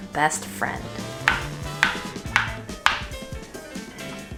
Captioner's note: board tapping